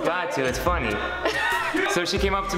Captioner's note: laughs